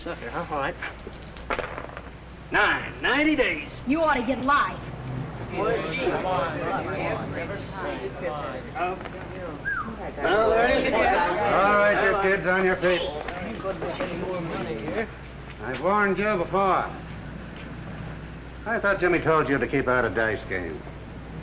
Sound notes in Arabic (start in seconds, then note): 4.9 ثرثرة